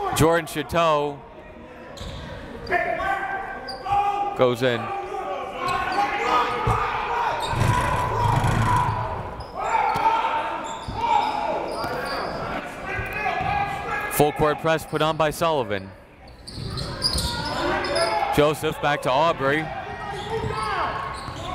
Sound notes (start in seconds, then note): 5.7 coaches barking commands